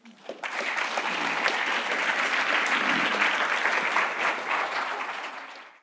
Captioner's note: applause